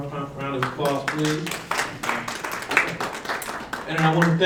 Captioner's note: audience applause